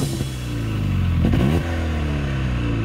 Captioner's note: engine roars